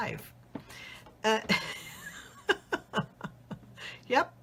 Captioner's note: laughs